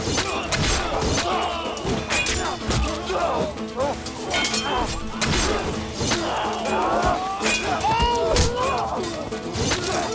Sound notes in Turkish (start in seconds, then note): 0.0 Kılıç sesleri; 1.3 Aksiyon müziği